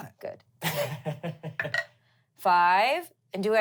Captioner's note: laughs